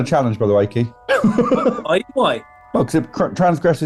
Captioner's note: laughing